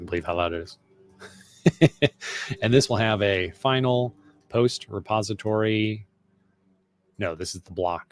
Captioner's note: laughing